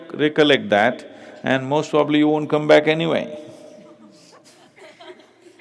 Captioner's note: laughter; 笑聲